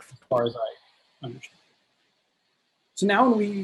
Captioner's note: whispering